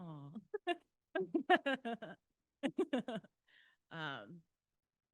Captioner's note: laughter